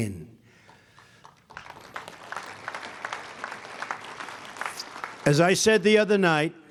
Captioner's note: applause